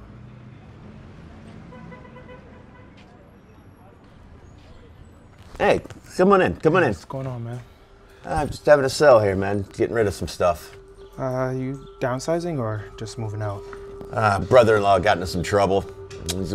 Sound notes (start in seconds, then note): 1.6 car horns honking; 3.0 people chattering